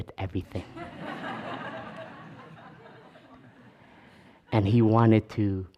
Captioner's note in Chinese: 笑聲